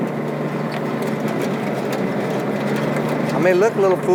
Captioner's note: vehicle squeaking and clanking